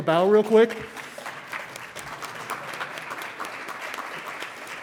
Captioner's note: congregation clapping